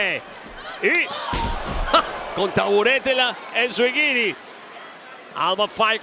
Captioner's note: laugh